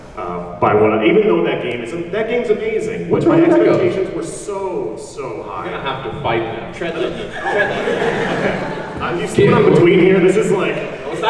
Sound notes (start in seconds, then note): 6.8 audience laughs